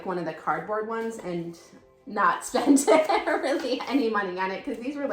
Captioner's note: laughing